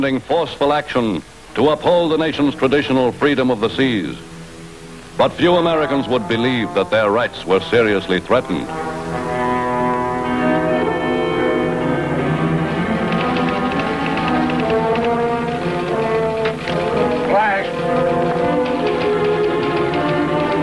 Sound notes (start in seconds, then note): 8.9 tense suspenseful music; 12.8 typewriter clacking